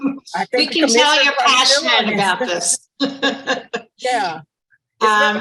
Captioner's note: laughing